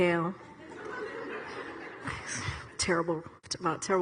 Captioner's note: audience laughs